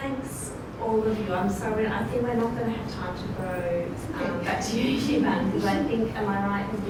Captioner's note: indistinct chatter